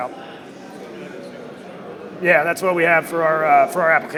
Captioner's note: crowd murmuring drowns out audience member